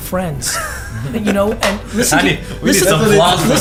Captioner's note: laughing and clapping